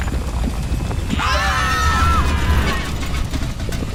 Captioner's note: screaming